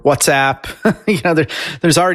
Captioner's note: chuckles